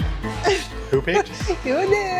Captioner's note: laughs